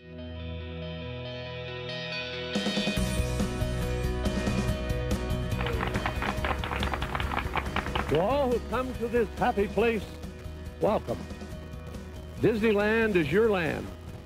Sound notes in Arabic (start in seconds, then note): 0.1 موسيقى مبهجة; 5.4 تصفيق الجمهور